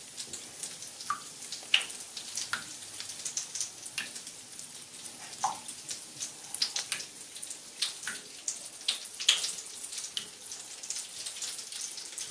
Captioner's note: popping sounds & fizzing sound